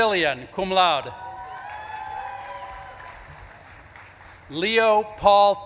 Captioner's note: audience claps and cheers